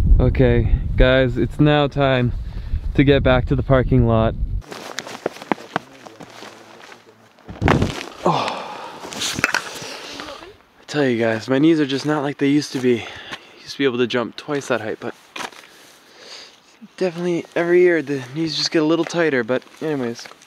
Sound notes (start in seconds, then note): 7.4 thud; 8.1 grunts